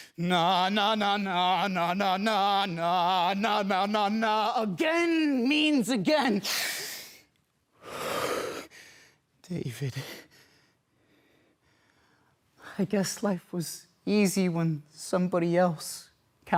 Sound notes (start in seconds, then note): 7.8 sharp breaths; 7.8 loud exhale; 10.0 heavy breathing